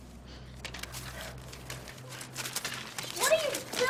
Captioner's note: papers rustling